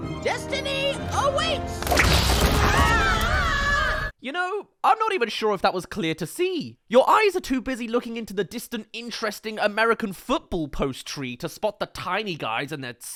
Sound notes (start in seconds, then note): 2.4 screams